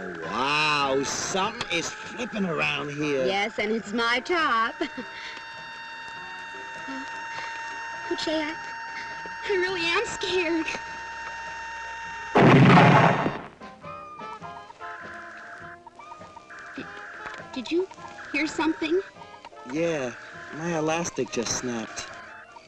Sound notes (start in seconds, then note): 4.0 laughs; 12.3 explosion rumbles